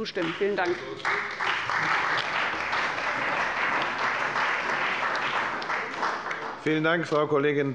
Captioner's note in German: Beifall bei dem BÜNDNIS 90/DIE GRÜNEN und der CDU